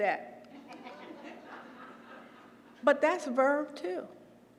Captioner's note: laugh